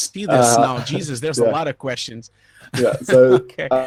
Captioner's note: laughing